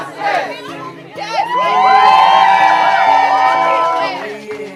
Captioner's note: crowd cheering